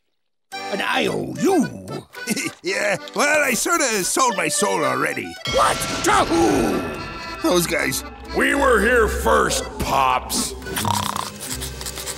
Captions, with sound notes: An I.O.U.? [chuckles] Yeah, well, I sort of sold my soul already. What? To who? Those guys. We were here first, pops. [snoring]